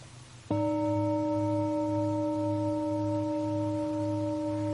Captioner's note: bells chiming